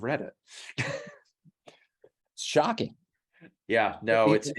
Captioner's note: laugh